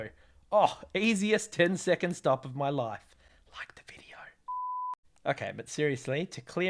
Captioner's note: whispers